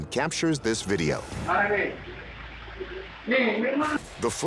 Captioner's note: non-english speech